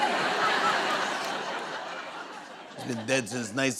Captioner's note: laughter